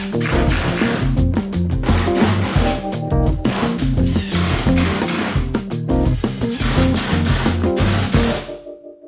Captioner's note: drilling